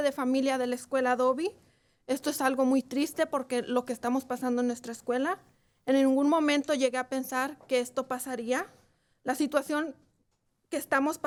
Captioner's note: speaking in spanish